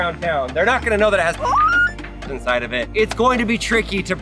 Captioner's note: screams